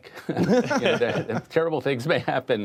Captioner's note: laughter